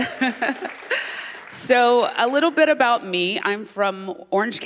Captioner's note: applause